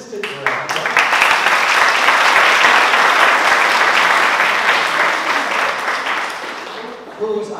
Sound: applause

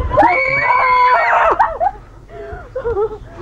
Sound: screaming

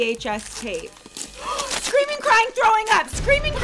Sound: gasps

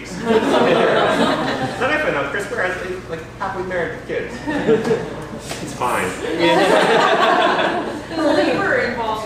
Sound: laughter

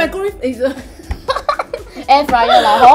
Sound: laughs

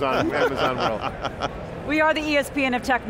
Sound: laughing

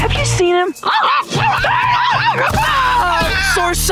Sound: screaming

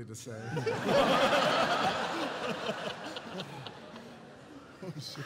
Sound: laughter

